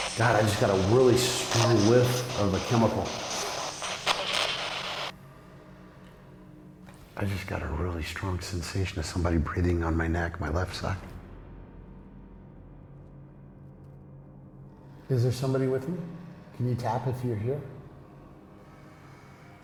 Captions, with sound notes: God I just got a really strong whiff of a chemical. [spirit box stops] I just got a really strong sensation of somebody breathing on my neck. My left side. Is there somebody with me? Can you tap if you're here?